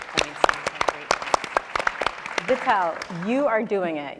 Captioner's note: audience and panelists applauding; faintly speaking